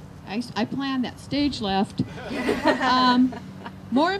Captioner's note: laughter